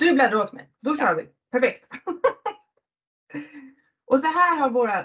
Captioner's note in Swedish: Skrattar